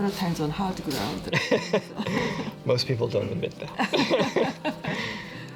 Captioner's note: laughter